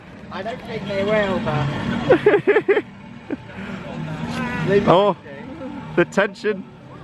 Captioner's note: laughter